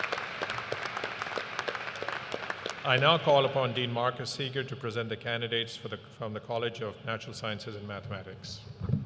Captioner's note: applause